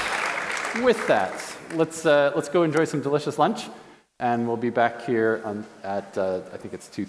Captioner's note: applause